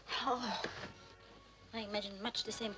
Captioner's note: Magda groans